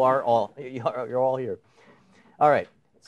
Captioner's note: chuckling